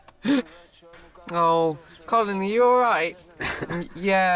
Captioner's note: imitates with English accent